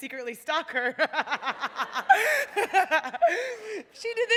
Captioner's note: laughter